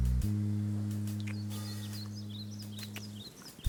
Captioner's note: kisses